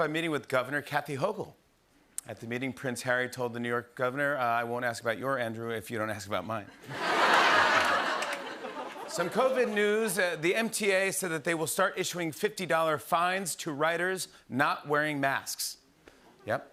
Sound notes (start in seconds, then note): 6.7 laughter